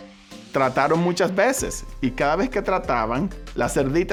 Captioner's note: speaking Spanish